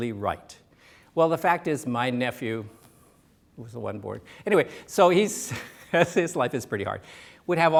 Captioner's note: laughs